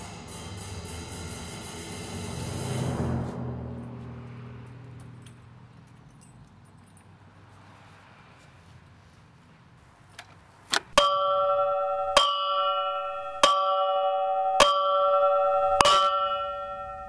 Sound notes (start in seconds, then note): 10.8 loud Clanging Sounds